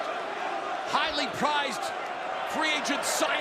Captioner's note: crowd cheering